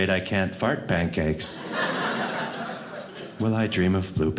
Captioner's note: audience laughing